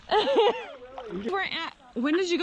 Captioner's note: laughing